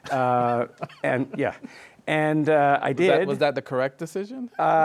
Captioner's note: chuckles